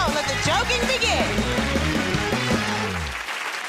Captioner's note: cheers and applause